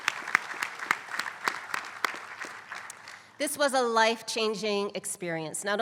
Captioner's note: applause